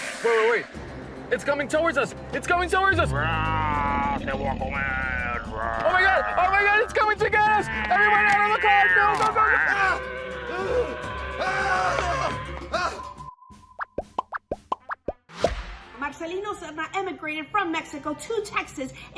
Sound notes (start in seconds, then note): 10.5 screams